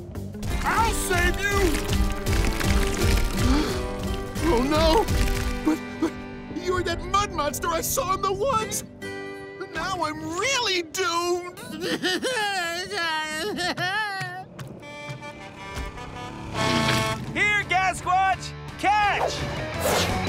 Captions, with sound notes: I'll save you! [gasps] Oh no, but you were that mud monster I saw in the woods! Oh now I'm really doomed! [sobbing] [truck horn honking] Here Gasquatch, catch!